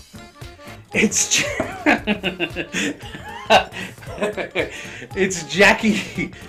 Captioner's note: laughs